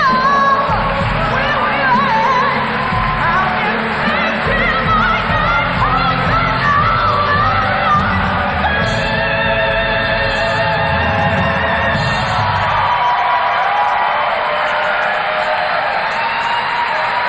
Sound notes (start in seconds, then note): 11.7 audience cheering